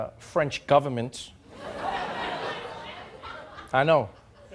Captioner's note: audience laughing